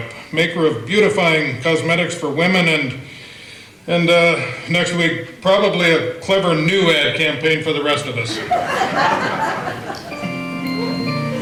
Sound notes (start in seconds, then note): 8.2 audience laughter; 10.1 organ music